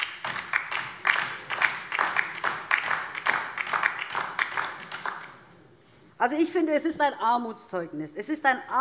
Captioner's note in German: Beifall DIE LINKE